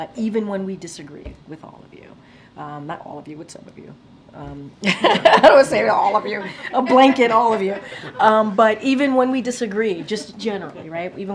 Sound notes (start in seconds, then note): 4.8 laughter